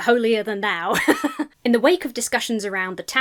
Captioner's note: laughs